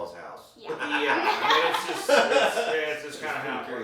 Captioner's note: laughing